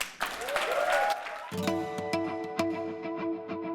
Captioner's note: laugh; applause